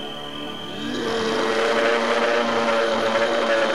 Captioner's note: slo-mo roar